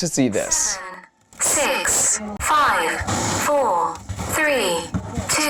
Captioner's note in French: Voix robotique